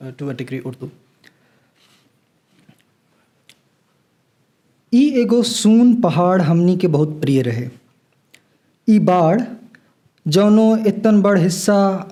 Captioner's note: Pidgin translation of L'Infinito is recited